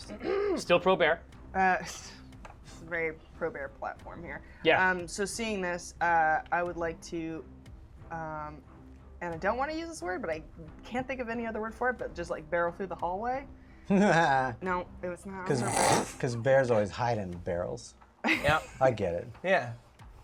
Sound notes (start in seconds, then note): 1.8 laugh; 13.8 fake laugh; 15.4 snorts